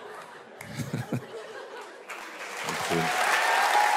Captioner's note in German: Gelächter